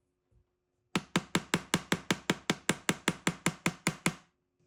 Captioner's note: hammer tapping